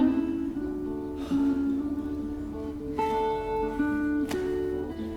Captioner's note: sighs